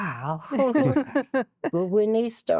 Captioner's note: laughing